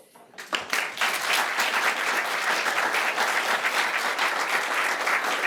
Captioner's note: attendees applauding